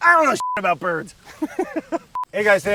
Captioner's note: laughs